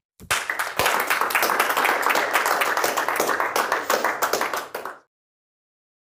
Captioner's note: applause